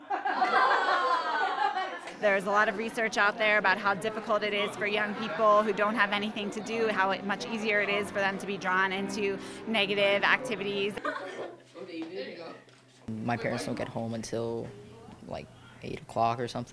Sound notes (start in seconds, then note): 5.7 laughter